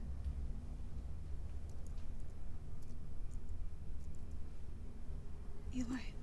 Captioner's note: keyboard keys clicking